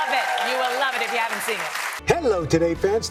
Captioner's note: applause